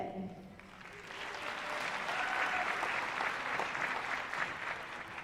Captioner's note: applause